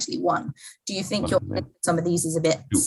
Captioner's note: microphone cuts out